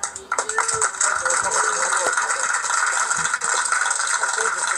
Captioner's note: clapping